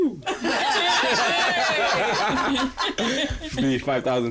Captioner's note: laughter